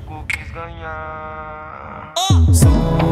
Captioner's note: makes clicking sound